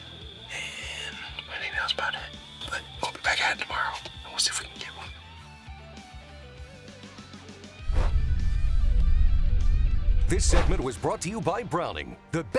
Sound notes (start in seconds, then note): 5.0 upbeat rock music continues; 7.8 muffled music; 7.8 logo whooshing